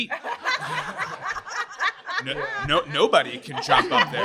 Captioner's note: everyone laughs